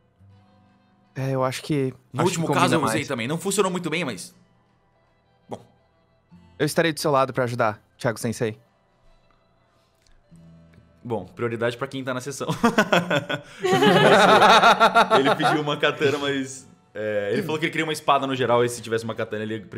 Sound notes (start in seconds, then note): 12.5 GM laughs; 12.6 laughes